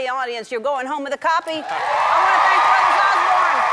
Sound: audience cheering

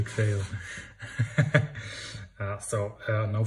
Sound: laughs

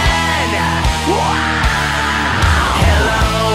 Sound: screaming

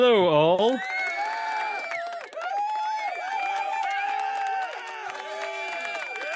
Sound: cheering

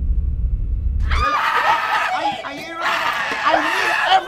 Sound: chaotic screaming

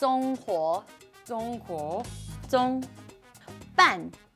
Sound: speaks mandarin

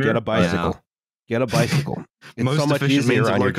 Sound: laughs

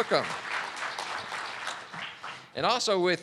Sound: audience clapping

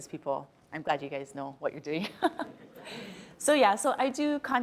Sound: laughs

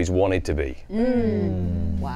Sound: all agreeing

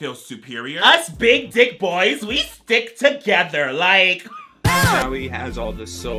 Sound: laughs

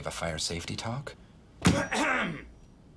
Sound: coughs

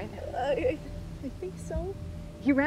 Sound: stammers

